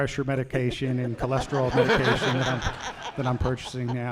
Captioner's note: laughter